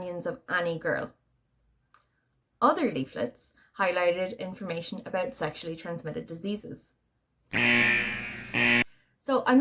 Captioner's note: warning alarm